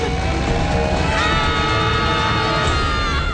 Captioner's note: screaming